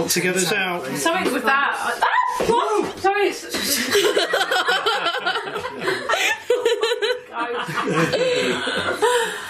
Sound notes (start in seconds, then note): 2.0 screams; 3.7 laughing